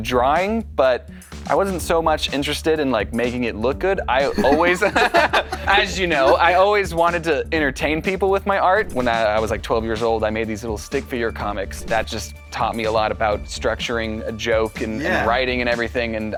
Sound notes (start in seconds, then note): 4.3 laughter